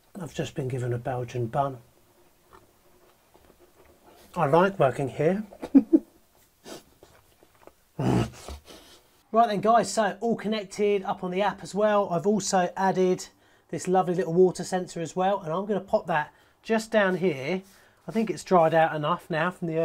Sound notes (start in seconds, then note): 2.4 chewing; 5.5 laughs; 8.0 grunts